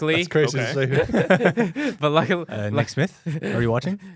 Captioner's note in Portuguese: risos